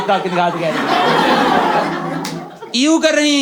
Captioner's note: audience member goes ewwwww